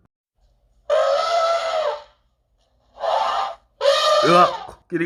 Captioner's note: trumpeting Elephant